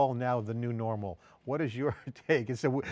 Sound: chuckling

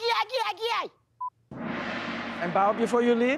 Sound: gong clashes

